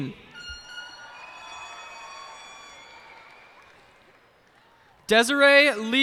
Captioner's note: cheers and applause